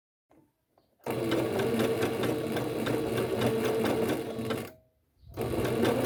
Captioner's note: sewing machine whirring